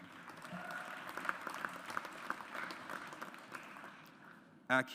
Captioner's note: audience applauds